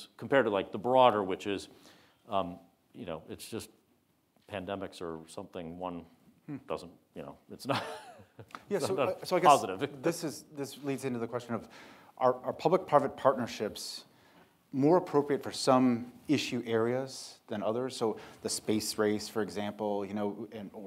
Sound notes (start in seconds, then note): 7.6 laughs